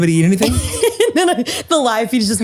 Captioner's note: laughs